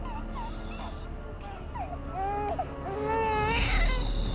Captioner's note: baby crying and screaming; Henrietta shushing